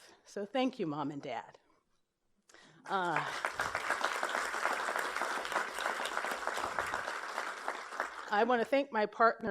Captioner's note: applause